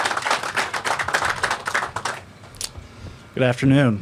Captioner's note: applause